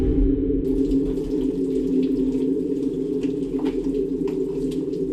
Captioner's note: water trickling